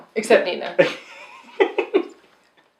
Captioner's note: giggle